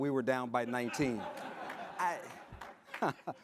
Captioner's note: audience laughs